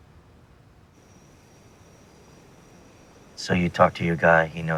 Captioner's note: crickets chirping